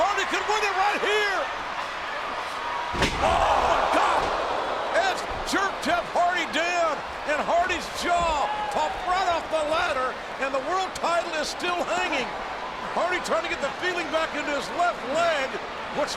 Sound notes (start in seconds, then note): 4.2 audience groans